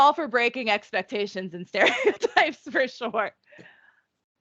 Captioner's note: laughing